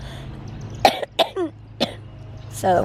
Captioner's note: coughing